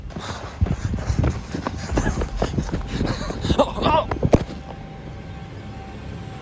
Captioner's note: running, panting